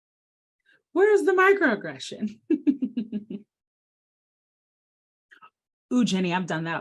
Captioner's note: laughs